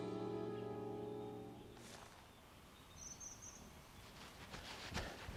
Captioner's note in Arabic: زقزقة الطيور